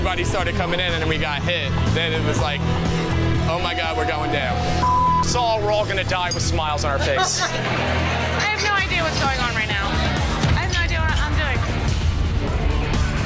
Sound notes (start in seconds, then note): 6.9 laughing